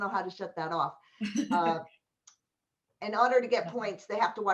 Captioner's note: laughter